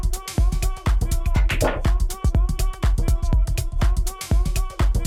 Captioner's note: balls clacking